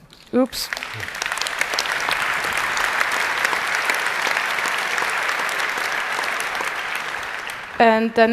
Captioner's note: applause